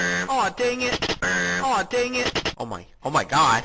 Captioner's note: buzz noise